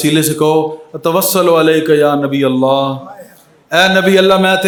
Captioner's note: Arabic